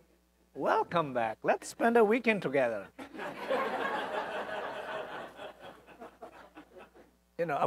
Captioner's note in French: l'audience rit